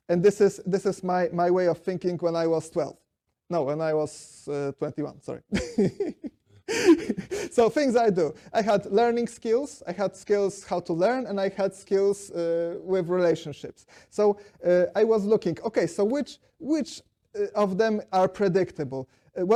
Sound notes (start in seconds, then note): 6.6 laughs